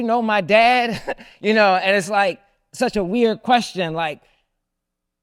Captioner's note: laughs